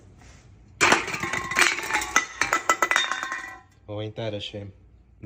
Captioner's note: can dropping.mp3